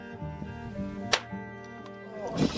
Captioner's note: distant shot cracks